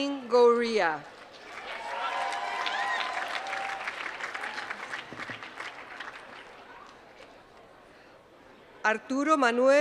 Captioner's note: applause